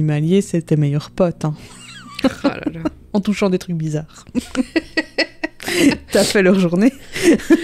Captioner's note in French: rires